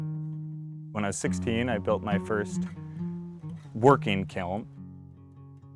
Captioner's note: voiceover